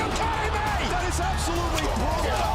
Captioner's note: crowd cheering